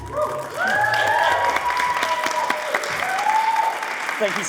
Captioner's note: audience cheering